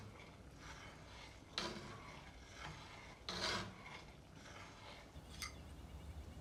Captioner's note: pan scraping; birds chirping